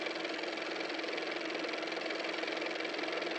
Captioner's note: car motor